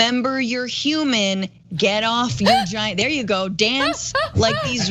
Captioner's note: laugh